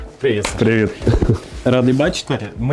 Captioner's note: laugh